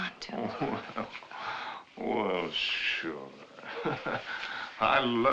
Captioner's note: chuckling